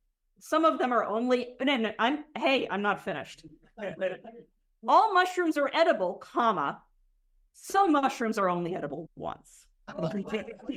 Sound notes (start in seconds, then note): 3.6 laughter